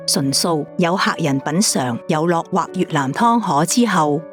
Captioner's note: Vietnamese